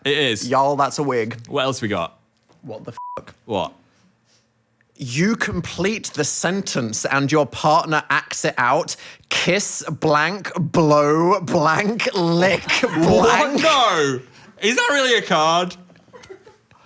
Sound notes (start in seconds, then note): 3.0 beep